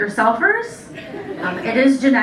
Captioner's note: laughter